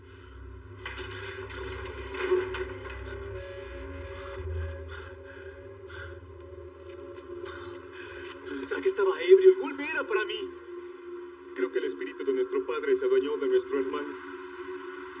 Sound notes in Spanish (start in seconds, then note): 4.4 Respira agitado